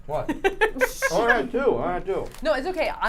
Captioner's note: chuckles